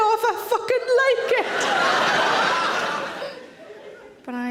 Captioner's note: audience laughing